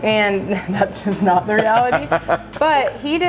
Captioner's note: laughing